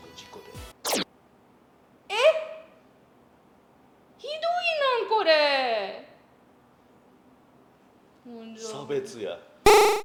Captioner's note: record scratch